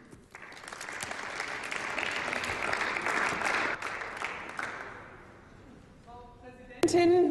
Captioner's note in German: Applaus